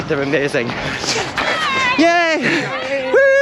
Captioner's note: volunteer Cheering